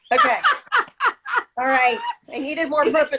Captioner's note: laughter